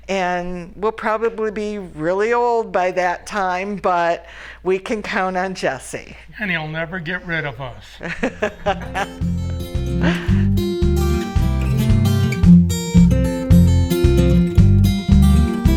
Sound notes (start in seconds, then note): 8.0 laughter